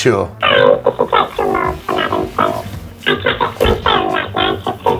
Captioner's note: distorted answering machine